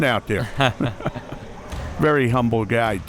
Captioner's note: chuckling